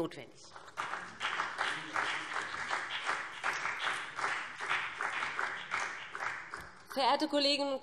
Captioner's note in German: Beifall